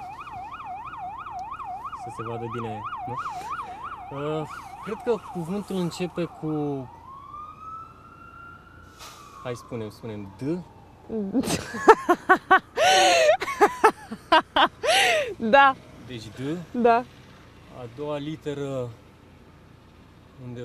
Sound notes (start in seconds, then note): 11.3 laughing